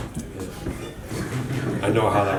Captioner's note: laughing